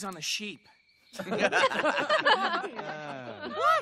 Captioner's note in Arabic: الكل يضحك